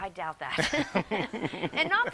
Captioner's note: both laugh